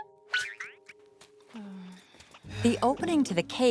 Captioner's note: caterpillar noises; sighing